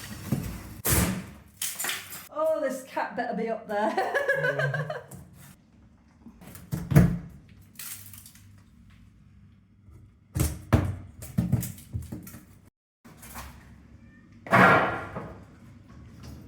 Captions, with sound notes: Oh, this cat better be up there. [laughing]